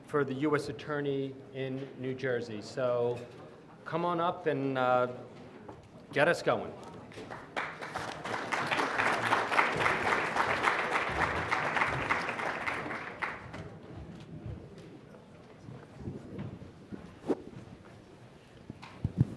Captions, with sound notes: for the US Attorney in New Jersey. Come on up and get us going. (audience applauding)